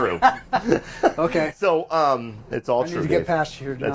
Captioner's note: laughing